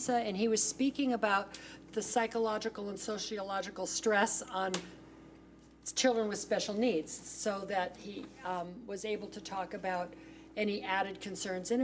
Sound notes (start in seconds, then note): none